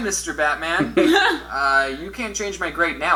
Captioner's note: both laugh